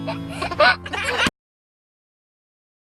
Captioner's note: laughs